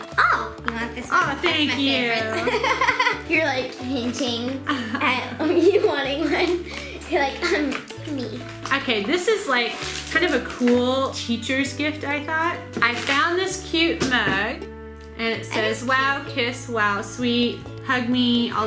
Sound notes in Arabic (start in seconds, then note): 3.6 يضحك